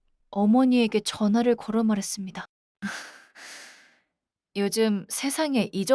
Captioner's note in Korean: 한숨; 헉 소리